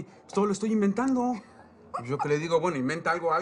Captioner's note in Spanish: Ríe